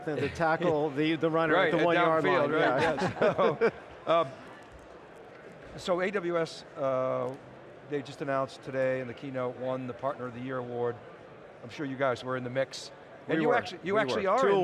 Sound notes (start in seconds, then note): 2.3 men laugh